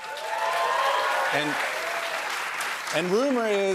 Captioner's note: cheers and applause